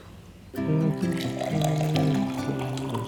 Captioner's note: humming